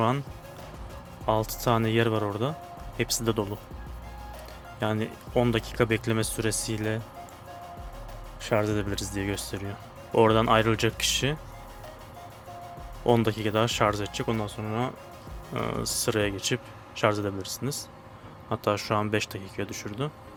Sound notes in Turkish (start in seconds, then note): none